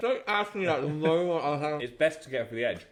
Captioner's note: chuckling